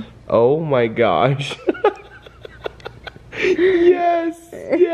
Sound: laughs

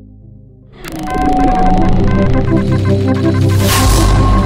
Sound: beeping sound

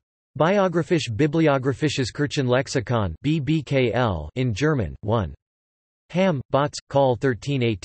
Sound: in German

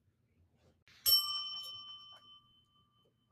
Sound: bell dings

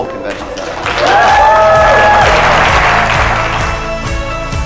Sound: cheering; light mood music

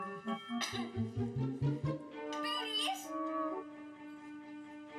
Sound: coughs

